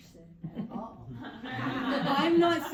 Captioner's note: audience laughs